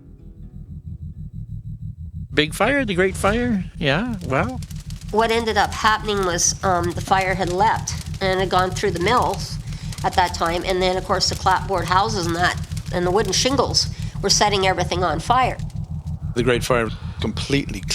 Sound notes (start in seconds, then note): 3.4 fire whoosh; 5.7 fire crackling